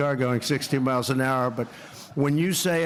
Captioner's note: laughter